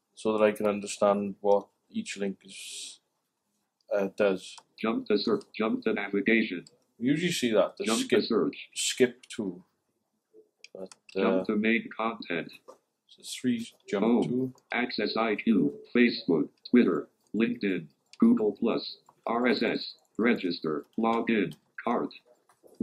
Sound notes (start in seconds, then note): 4.8 computerised voice